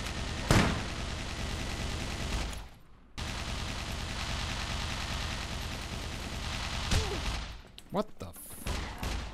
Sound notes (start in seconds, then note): 0.0 Mech Gunshots & Gunshots; 3.1 mech Gunshots